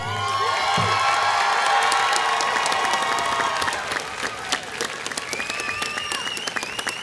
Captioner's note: ongoing applause